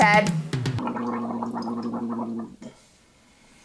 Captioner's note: man gargles